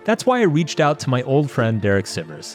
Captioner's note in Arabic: none